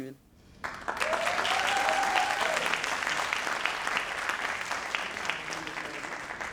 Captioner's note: audience cheering and applauding